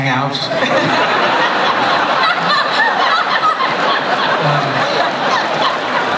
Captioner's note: laughter